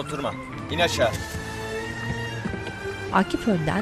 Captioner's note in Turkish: Kapı açılma sesi